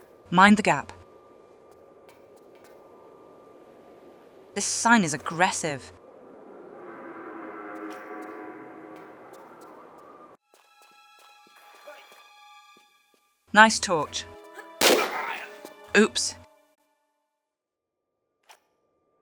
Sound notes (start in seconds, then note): 14.8 bam